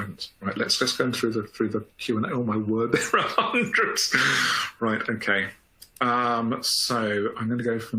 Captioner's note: laughing